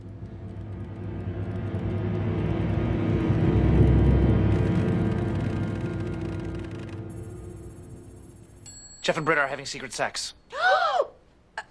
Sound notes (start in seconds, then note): 1.7 intense sound swells; 10.5 ANNIE and SHIRLEY gasp